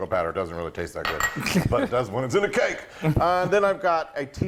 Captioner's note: laugh